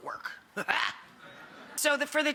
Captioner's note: laughing